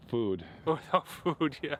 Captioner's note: laughing